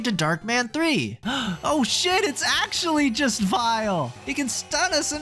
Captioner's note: gasp